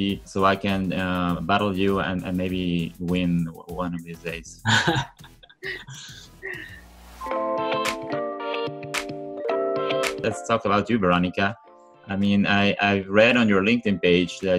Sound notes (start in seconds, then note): 4.6 laughs; 7.4 upbeat music